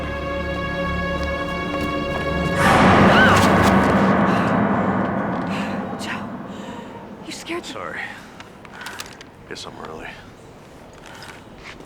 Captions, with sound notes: (dramatic music) (Lisa screams) (gasps) Joe, you scared the... - Sorry, guess I'm early.